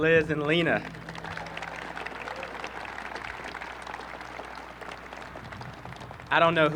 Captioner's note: applause